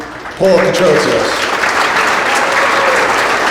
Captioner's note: audience applauds